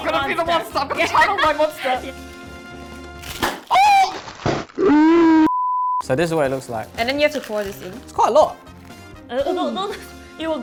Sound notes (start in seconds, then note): 0.8 laughs; 2.8 crisp packet pops; 3.7 yells; 4.3 slow motion pop; 4.3 yells in slow motion; 5.4 beep; 10.0 laughs